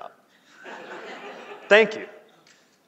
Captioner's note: laughing